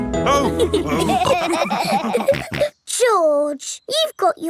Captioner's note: all laughing